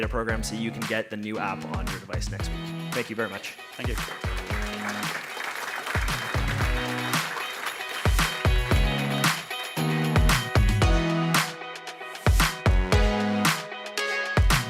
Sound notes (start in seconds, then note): 4.7 applause; 6.6 uptempo music